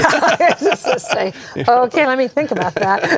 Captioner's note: laughter